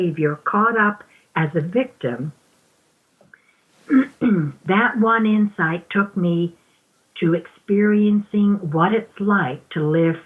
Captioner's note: clears throat